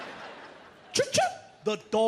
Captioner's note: imitates car alarm beeping